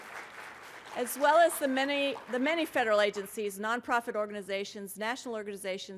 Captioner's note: applause